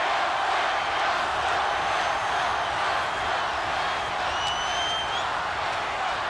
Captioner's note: cheers